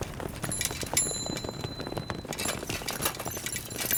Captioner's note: bell chiming